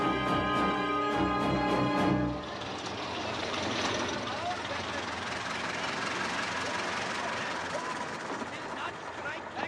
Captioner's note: fast-paced instrumental music; car engines